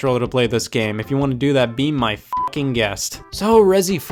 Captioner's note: beep